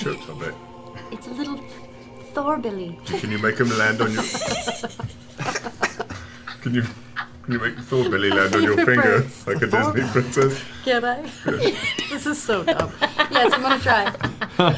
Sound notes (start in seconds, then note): 3.1 laughter